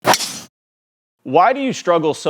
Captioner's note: loud smack